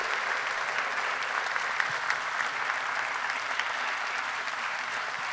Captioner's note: applause